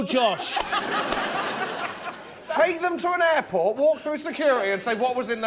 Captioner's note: laughter